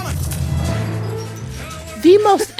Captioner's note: laughter